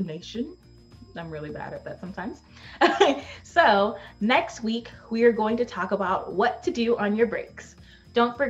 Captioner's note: laughs